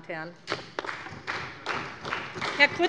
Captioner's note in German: Beifall bei der SPD